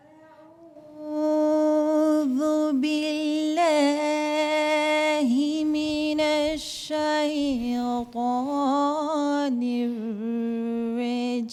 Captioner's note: Quranic recitation in Arabic